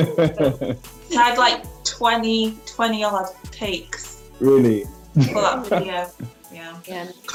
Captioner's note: laughing; laughs